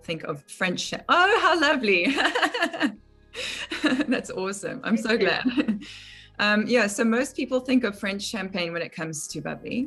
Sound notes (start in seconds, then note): 4.7 laugh